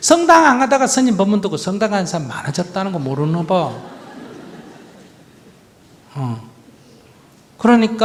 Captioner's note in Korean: 청중 웃음